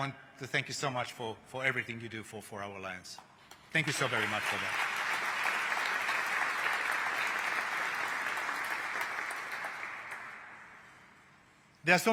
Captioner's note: applause